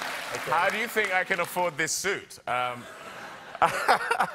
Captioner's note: laughter